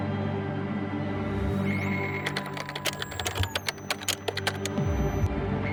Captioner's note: machine clicks and whirs